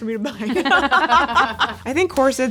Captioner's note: everyone laughing